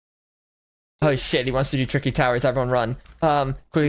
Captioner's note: in English